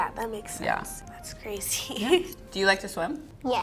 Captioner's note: laughs